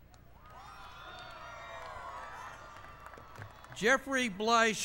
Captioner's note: applause